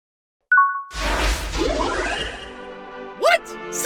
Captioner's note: ding!